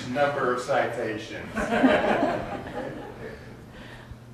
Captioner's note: audience laughs